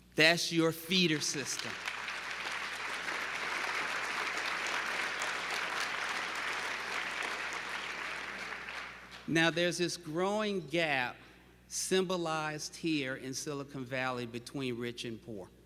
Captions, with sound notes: That's your feeder system. [applause] Now there's this growing gap symbolized here in Silicon Valley between rich and poor.